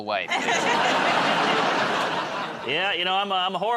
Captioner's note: laughter